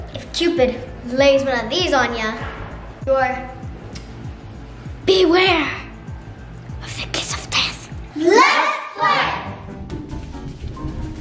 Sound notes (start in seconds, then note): 3.7 clicks teeth